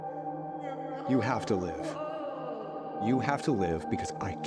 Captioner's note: Logan sobbing